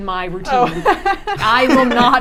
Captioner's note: laughing